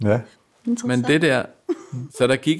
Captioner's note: laughs